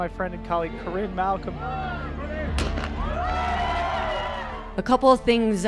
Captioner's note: crowd cheers; starting pistol goes off